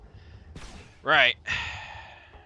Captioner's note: sigh